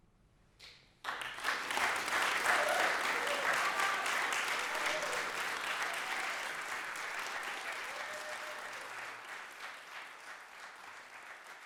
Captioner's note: applause